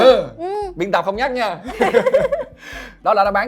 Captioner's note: laugh